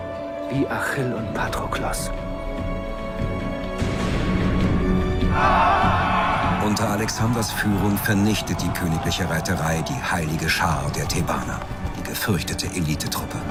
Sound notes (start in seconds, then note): 3.0 inspiring music; 5.3 cheering